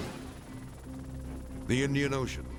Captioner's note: transition whooshes; helicopter buzzing; soft dramatic music